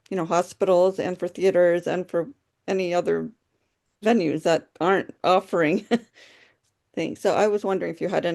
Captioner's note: chuckles